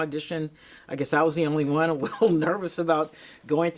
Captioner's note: chuckles